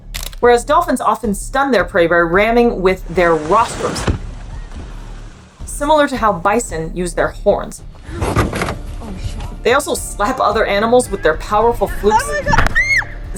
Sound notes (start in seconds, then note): 0.0 background music; 0.1 camera click sounds; 3.1 low thudding crash noise into water; 8.0 metal scraping and thudding noise; 8.0 background chatter; 11.9 high-pitched scream